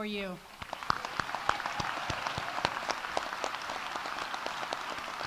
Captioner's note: audience applauding